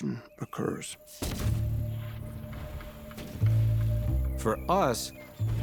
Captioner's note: cannon firing